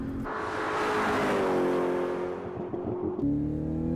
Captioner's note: engines whining and puttering; engines revving